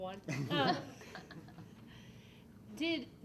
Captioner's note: laughs